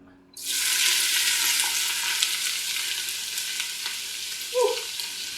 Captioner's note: onions sizzling